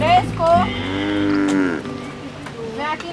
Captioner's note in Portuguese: Mugido